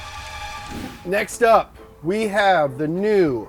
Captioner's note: horror music; transition whooshes